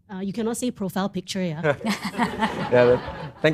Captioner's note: laughter